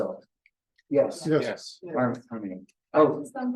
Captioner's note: indistinct chatter